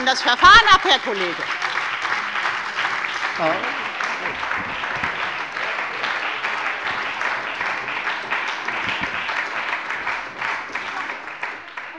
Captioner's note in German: Beifall bei der FDP und der SPD